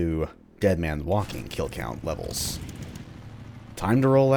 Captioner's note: motorcycle engine starts